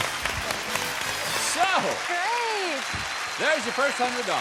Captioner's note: applause